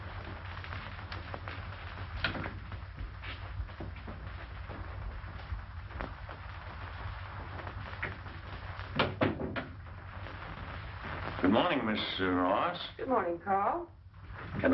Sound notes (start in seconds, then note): none